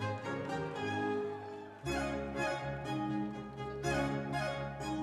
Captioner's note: audience members cheering